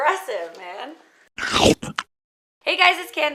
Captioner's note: mouth chomp